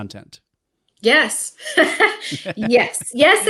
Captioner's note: laughing